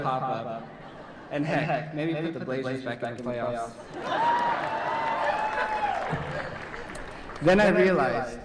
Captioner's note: laughter and cheering